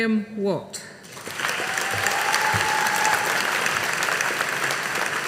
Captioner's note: audience applauding